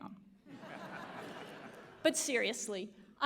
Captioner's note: audience laughs